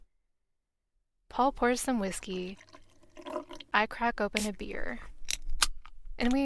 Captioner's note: whiskey pouring sound; beer sound